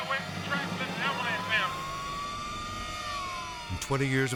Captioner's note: siren blaring